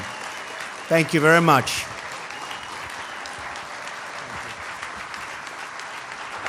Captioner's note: applause